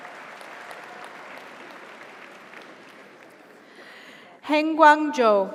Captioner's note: audience cheers; audience applauds